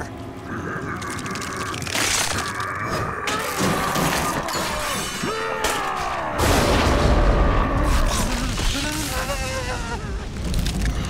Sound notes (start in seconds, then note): 0.3 screaming; 6.4 thundering; 7.8 buzzing